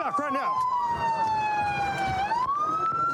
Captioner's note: sirens blaring